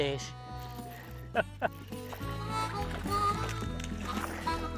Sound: laughing

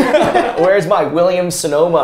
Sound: laughter

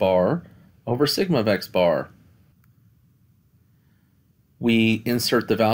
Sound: no Speech Detected

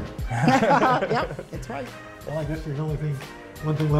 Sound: laughter

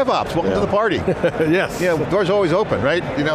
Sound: laughs

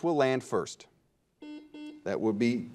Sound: buzzer dings

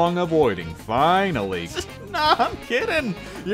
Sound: chuckle

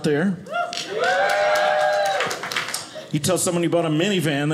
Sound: audience cheers

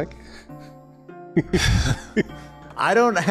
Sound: chuckles

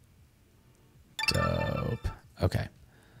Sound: chiming

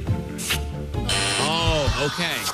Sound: buzzer sounds

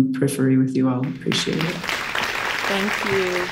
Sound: audience claps

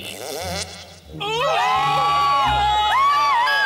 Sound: screaming!

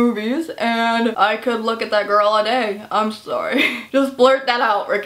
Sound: chuckle

